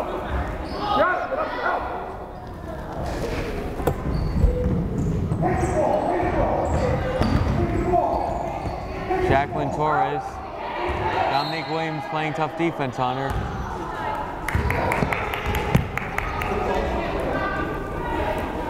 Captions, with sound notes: Jaclyn Torres! Dominique Williams playing tough defense on her. (crowd chattering)